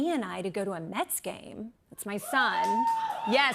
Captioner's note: cheers and applause